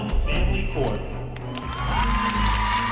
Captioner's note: audience cheering